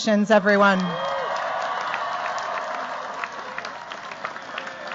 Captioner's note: cheers, applause